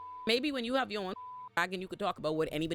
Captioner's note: beep